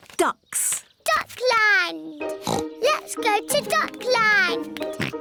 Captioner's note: oinks; oinks